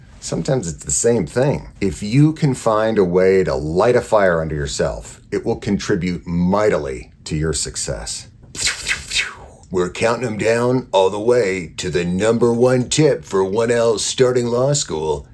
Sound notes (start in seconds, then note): 8.6 laser whooshes